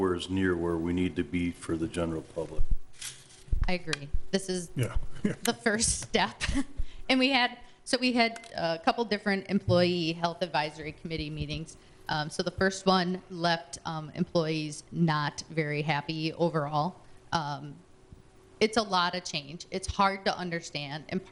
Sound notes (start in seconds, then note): 5.1 chuckling